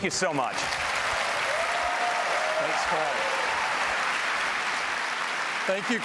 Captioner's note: applause